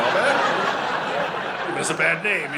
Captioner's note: audience laughing